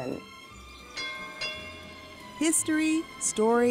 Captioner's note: trolley bell ringing